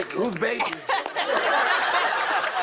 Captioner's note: laughter